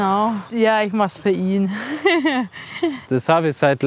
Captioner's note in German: Kichern